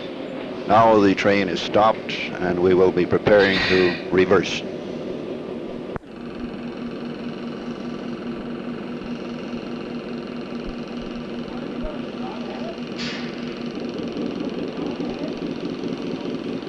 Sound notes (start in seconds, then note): 4.8 sound of the train moving